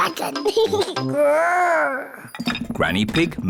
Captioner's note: giggles, growls